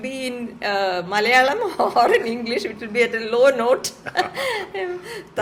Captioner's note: laughter